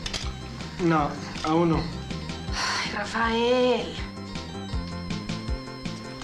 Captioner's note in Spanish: Suspiro